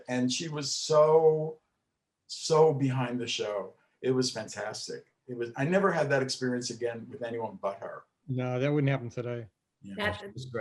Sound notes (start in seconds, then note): none